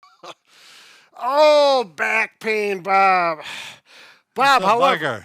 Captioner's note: chuckling